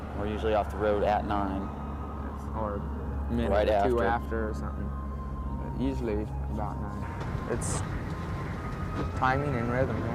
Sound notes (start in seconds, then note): none